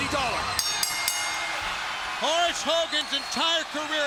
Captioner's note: bell rings